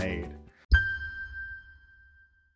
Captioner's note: chime